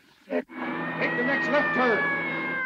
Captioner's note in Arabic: صوت صفارة الإنذار